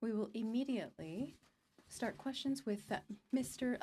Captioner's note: speaking in french